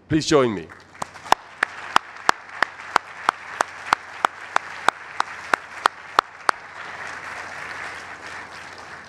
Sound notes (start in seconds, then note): 0.6 applauding; 0.7 audience applauding